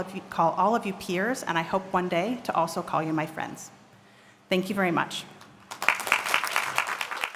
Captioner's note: applause